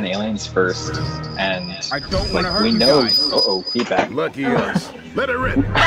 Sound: loud ringing

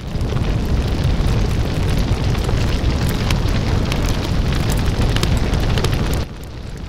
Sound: fire crackling noise

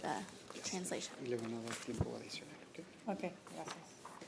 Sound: speaking Spanish

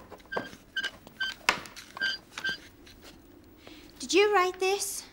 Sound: alarm cover squeaking

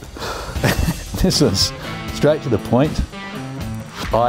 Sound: laughs

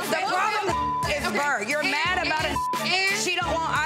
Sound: beep

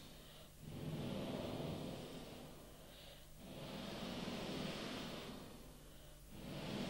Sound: shri mataji blows into the microphone

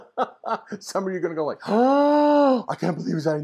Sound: gasp

